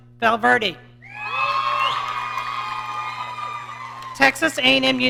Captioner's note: audience cheering